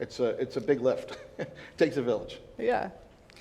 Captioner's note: chuckles